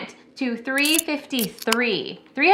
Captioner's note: can opening